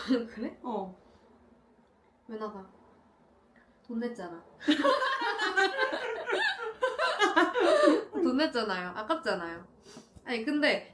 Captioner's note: laughter